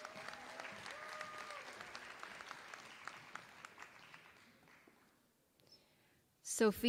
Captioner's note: applause